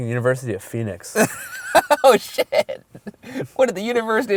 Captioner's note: voiceover